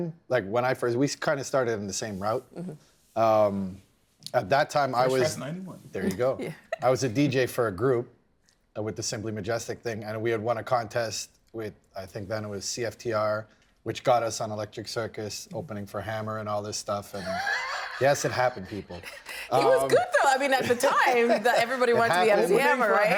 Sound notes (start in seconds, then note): 17.1 laughing